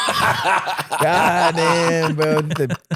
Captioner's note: laughing